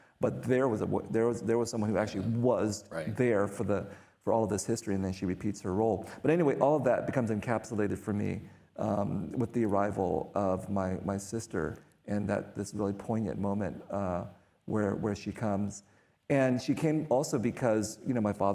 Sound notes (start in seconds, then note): none